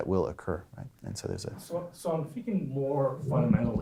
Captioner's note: voiceover